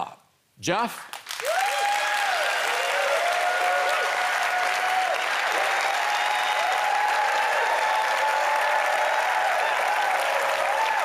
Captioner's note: applause